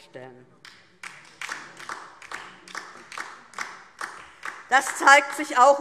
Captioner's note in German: Beifall DIE LINKE